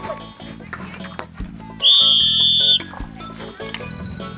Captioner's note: Guardian's warning whistle